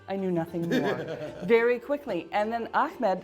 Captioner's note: laughing